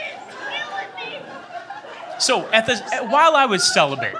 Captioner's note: woman in audience laughs/shouts "He's killing me!"